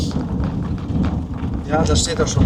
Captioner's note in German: schnauben